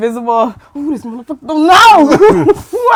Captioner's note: screaming